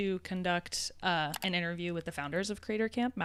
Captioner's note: computer mouse clicking